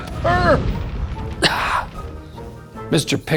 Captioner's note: coughs